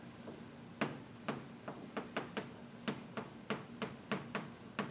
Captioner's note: chalk tapping